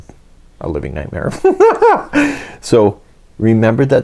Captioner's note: big giggle